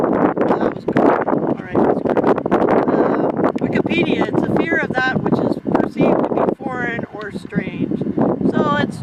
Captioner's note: wind noise